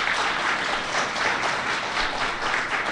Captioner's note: applause